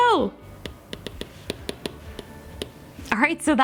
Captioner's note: tapping on iPad